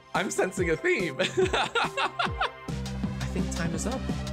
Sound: laughing

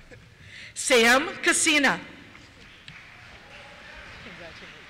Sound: applause

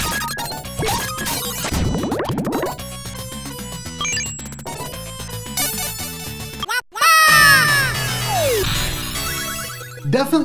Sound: game audio

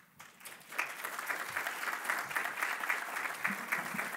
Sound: applause

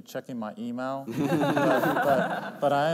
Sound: laughter

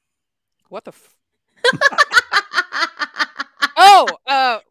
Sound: laughing

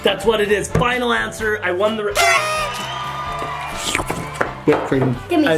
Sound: horn toots

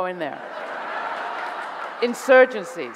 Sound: audience laughing

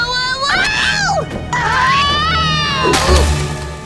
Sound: screaming

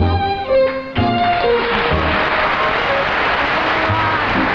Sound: applause

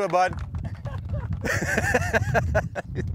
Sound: laughing

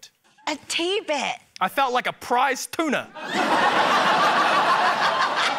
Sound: laughter

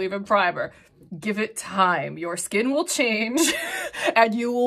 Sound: chuckles

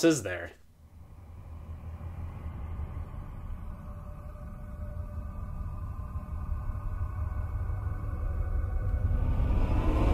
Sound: ominous sounds

